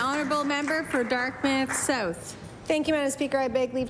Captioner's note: applause